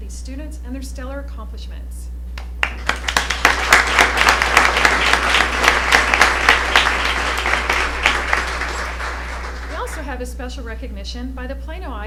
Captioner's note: applause